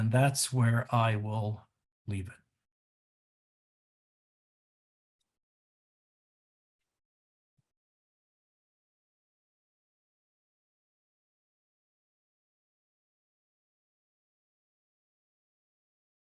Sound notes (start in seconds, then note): 3.7 pause